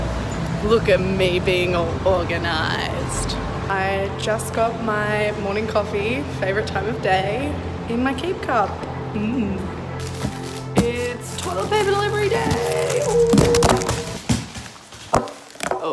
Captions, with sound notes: Look at me being all organized. I just got my morning coffee, favorite time of day, in my keep cup, mm. It's toilet paper delivery day! Ooh! (paper rustling) (thumping)